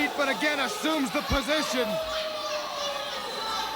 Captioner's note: crowd cheering